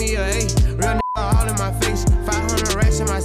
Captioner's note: beep